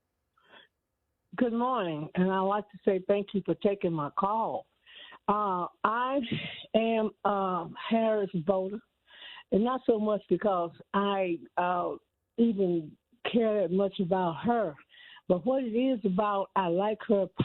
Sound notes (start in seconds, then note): none